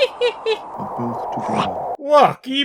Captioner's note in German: chomp